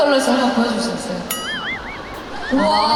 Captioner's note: brrr Brrr